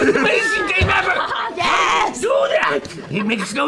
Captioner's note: laughter